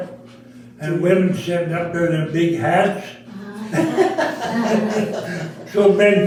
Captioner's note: all laughing